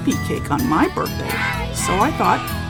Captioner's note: kids call out: “Happy Birthday!”